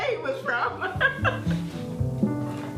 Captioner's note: laughs; instrumental music